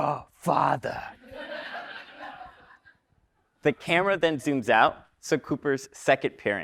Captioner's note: laugh